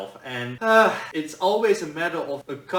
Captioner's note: sighs